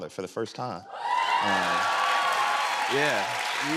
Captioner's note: cheers and applause